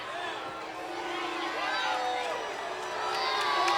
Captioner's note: audience jeers